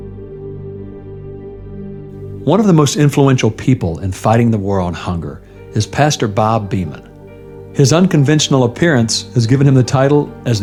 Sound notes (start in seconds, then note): 2.7 voice-over